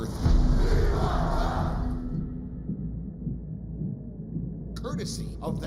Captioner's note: fans chanting